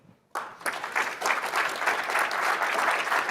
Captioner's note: applause